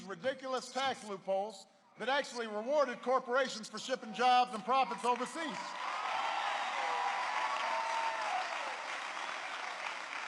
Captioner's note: applause